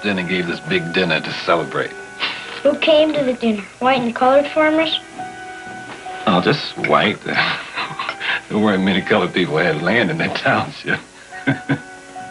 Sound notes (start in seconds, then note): 7.2 chuckles; 11.3 chuckles